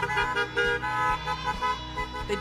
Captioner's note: cars honking